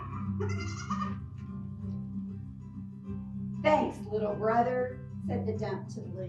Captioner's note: animal noises